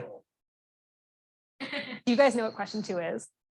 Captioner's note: laughs